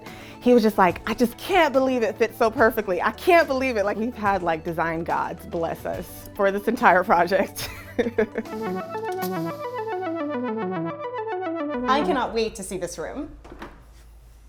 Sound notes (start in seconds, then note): 7.6 laughs; 9.1 upbeat music